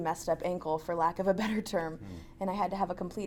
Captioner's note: laughs